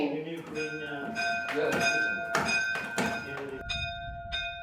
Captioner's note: bell ringing